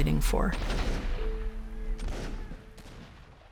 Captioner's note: guns bang